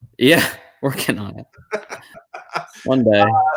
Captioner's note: chuckle